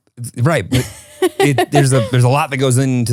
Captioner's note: laughs